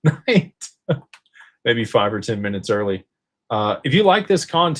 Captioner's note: laughter